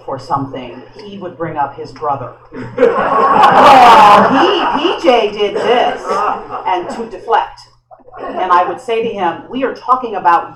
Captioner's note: laughter